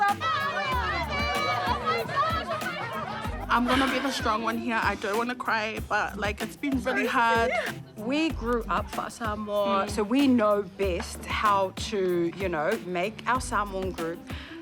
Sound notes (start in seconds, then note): 0.0 clamouring; 4.4 exhales, sniffles